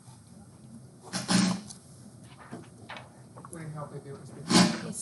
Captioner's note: student mumbling